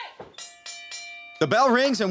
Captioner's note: bell rings